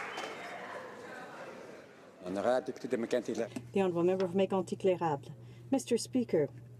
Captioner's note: some Applause